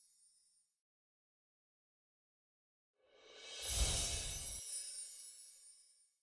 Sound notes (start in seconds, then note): 3.9 chimes ring